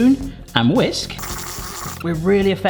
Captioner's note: whisk whizzes